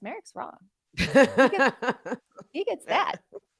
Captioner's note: chuckling